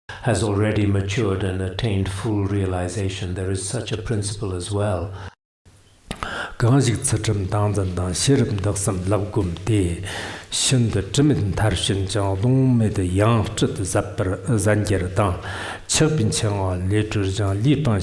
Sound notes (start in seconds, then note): 6.5 giving oral transmission in Tibetan